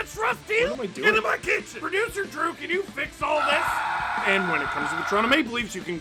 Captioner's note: screaming